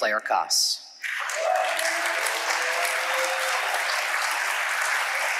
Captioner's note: audience applauding